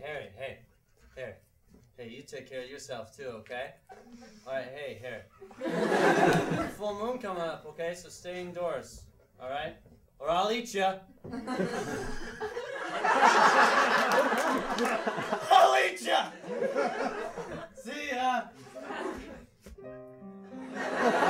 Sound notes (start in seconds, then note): 11.4 laugh; 19.7 slow piano